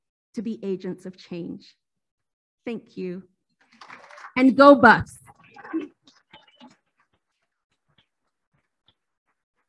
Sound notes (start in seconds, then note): 0.0 speaking foreign language; 3.7 applauding